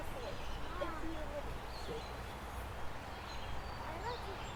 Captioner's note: faintly speaking